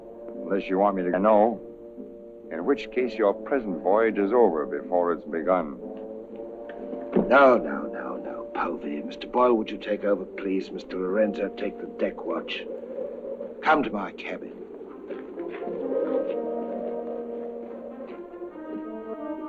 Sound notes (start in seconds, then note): 12.8 wind howling; 15.2 soft dramatic music